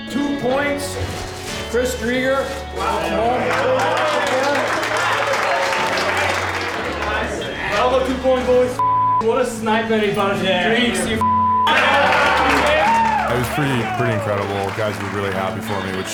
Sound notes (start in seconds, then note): 2.5 team claps; 11.6 team cheering